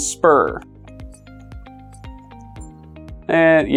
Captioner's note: Roku jangling